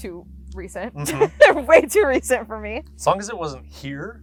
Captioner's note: laughs